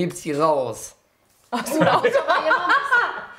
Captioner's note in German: alle lachen